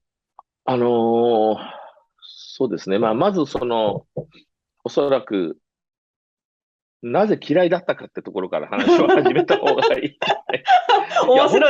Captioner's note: laughs